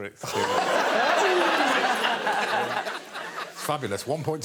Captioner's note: audience laughing